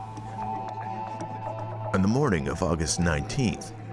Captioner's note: patrons chatting